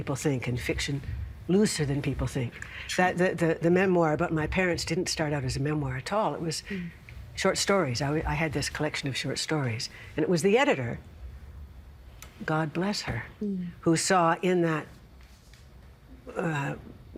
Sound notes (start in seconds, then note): none